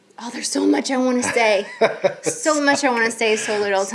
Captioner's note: laughing